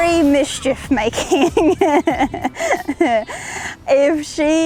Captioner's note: laughs